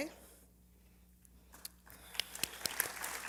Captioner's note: applause